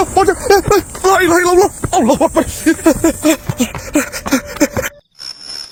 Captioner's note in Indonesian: tertawa